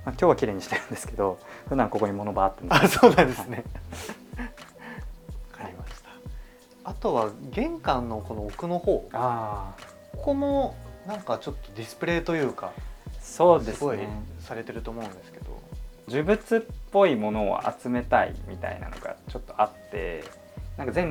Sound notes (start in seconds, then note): 2.7 laughter; 2.7 laughs